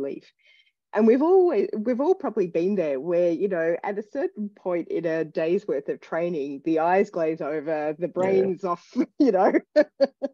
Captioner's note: laughs